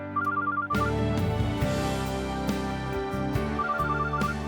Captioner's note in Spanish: Suena el teléfono